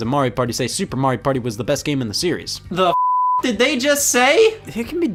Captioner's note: beep